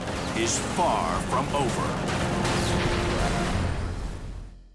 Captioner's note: gunfire